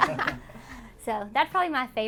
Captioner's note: all laugh